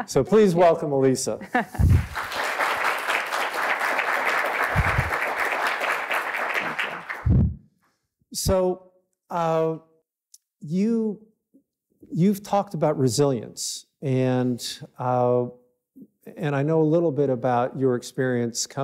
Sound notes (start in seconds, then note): 1.8 all clapping